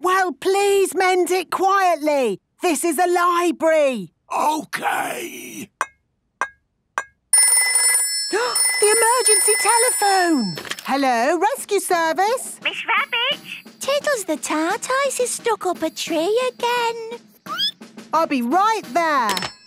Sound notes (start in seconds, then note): 4.2 whispering; 7.8 phone ringing, gasp; 17.3 squeaking